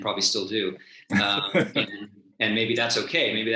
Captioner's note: chuckles